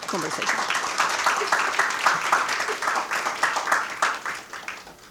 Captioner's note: attendees applauding